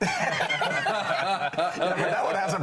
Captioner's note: laughter